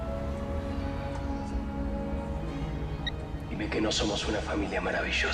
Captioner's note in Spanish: Suena el celular